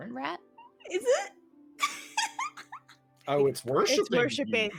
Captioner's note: laughing